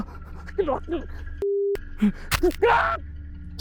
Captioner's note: Arawn gasping; knife stabbing